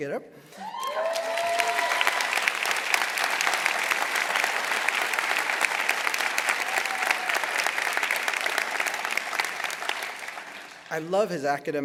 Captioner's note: applause